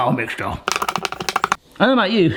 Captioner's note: high speed tapping